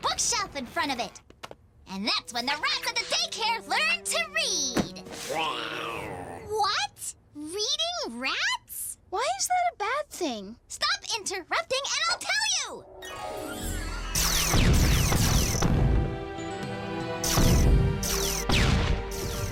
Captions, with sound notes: a bookshelf in front of it. And that's when the rats at the daycare learn to read. - (Happy groan) - WHAT?! Reading rats?! - Why is that a bad thing? - Stop inter-rupting and I'll tell you. (Lasers blast, explosions)